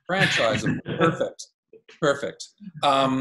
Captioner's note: laughing